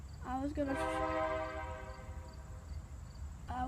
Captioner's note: horn blares